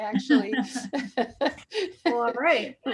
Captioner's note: laughs